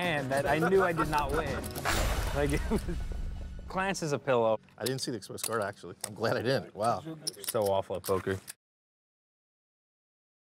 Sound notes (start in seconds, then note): 1.8 exploding noise